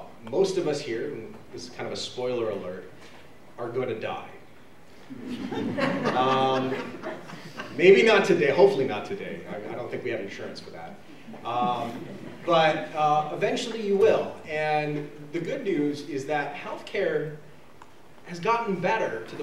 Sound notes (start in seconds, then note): 5.1 laughter